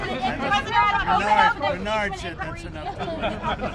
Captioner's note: laughter; laughs